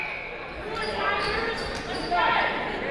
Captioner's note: crowd